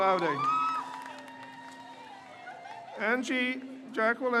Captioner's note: crowd cheers